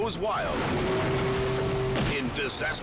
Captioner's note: barge horn blares; bridge shatters